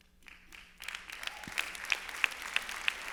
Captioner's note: applause